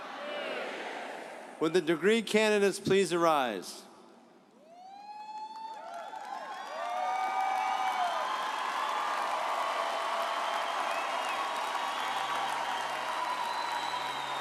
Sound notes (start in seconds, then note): 4.7 audience cheering